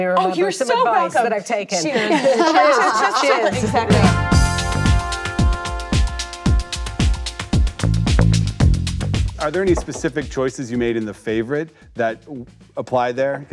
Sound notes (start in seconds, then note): 1.8 chuckles; 2.6 panelists laugh; 4.5 upbeat music